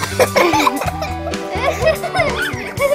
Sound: boys laughing

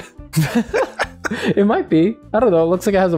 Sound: laughter

